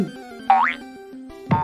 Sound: boink

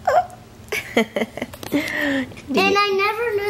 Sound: laughs

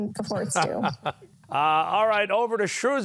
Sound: laughs

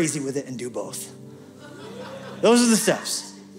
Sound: laughter

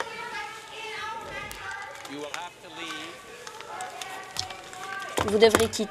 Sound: gallery disturbance

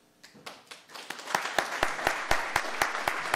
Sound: applauding

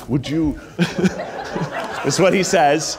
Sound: all laughing

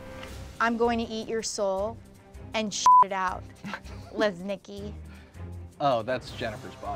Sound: beep

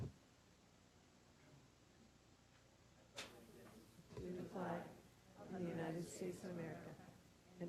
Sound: group speaking together

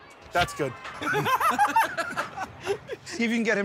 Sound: laughter

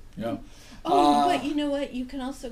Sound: voiceover

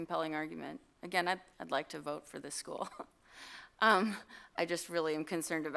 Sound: chuckle

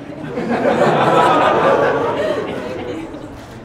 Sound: laughter

